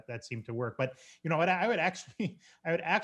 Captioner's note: chuckles